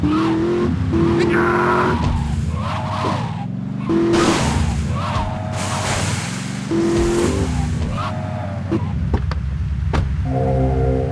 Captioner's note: screaming